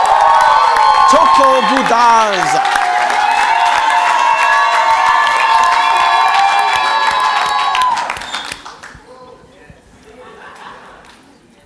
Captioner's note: cheers and Applause